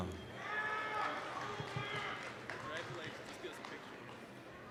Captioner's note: applause, cheering